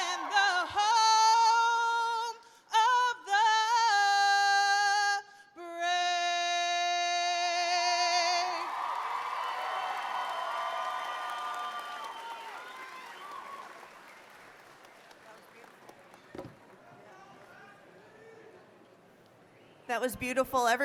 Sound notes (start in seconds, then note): 8.2 cheers and applause